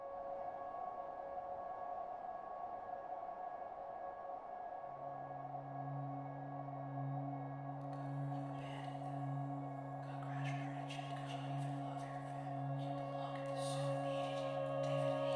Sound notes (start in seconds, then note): 8.2 whispered